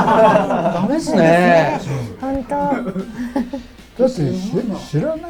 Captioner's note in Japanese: 苦笑